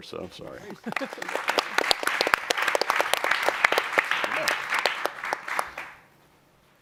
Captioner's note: applause